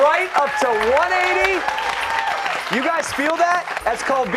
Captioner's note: cheers and applause